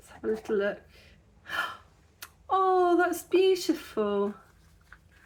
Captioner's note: gasp